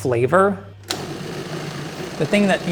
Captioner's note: food blending